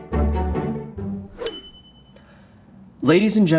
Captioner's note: upbeat music; bell dinging